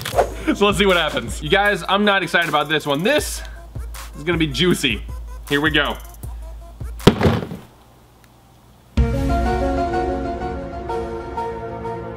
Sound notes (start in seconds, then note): 7.1 hammer bangs; 9.0 music